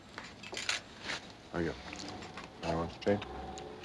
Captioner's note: indistinct chatter